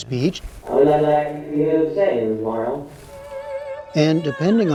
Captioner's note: through A.I. voice